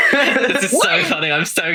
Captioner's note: laughing